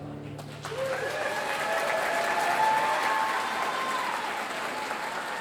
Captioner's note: audience cheering and applauding